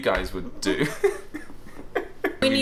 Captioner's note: both laugh